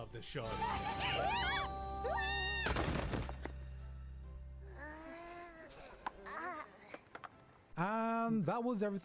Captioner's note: children screaming